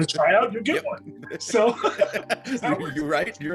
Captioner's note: laugh